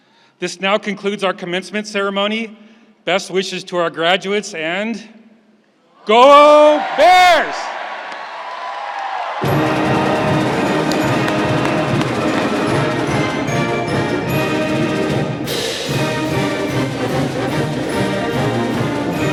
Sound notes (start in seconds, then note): 7.9 audience cheering and clapping; 9.3 joyful upbeat music